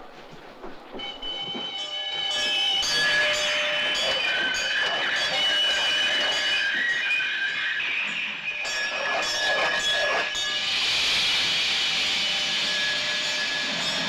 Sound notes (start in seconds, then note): 0.7 train whistle blowing; 3.7 brakes screeching